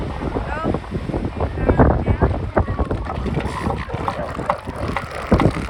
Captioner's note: elephant seals snorts and squawks